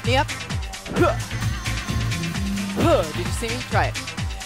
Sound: grunting

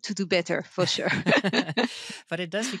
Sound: both laughing

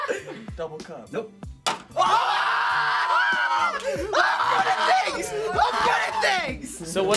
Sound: laughter; screaming

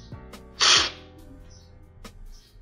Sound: slurping

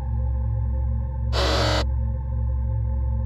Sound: robot sound effect

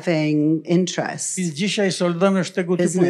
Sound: foreign language

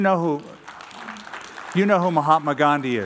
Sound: applause

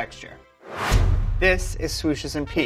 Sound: whooshing; trumpet blares

